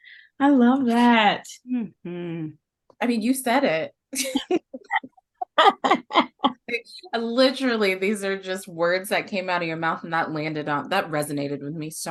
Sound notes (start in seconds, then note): 4.1 laughter